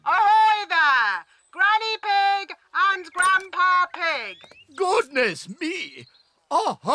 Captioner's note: none